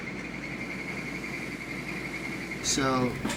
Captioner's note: machinery humming